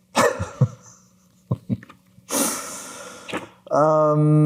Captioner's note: Ryan laughs